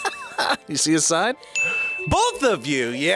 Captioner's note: React laughs; bell rings